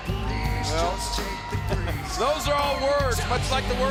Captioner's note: chuckles